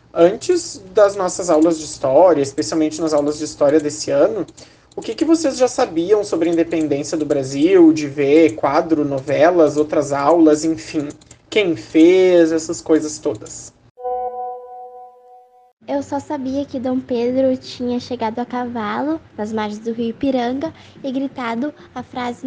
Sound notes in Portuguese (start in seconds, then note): 14.0 som de mensagem recebida no whatsapp